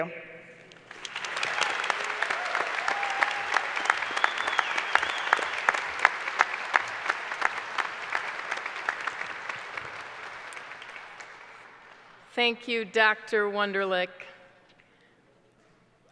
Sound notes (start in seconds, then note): 4.2 applause